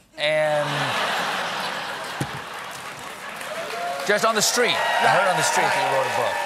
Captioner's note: laughter